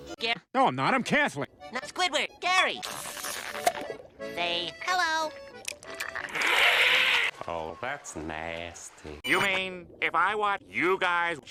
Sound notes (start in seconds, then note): 6.2 demotic Sea Creature Growls